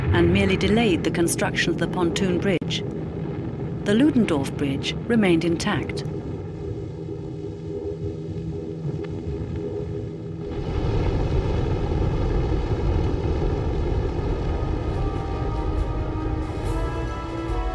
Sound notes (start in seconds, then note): 7.3 planes droning; 14.0 dramatic music